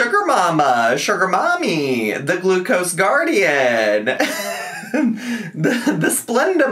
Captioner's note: laughs